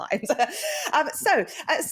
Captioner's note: laughs